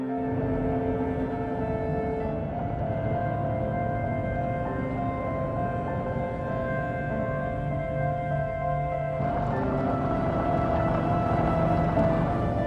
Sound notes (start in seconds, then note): 8.9 car driving